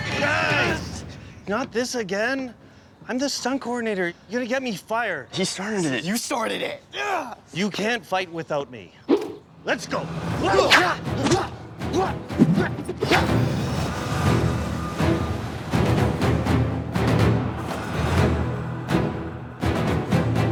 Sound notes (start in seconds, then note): 10.4 grunting; 13.2 theme music playing